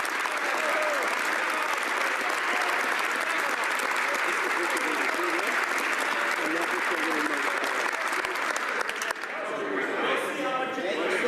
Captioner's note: some Applause